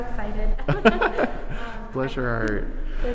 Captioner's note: both people laughing